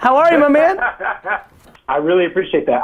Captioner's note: man on phone laughs